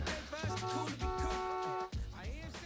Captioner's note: horn honking